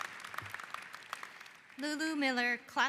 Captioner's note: applause